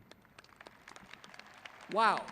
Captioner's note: applauding